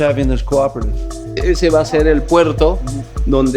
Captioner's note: speaking spanish